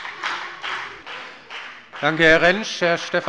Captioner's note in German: Heiterkeit und Beifall bei der FDP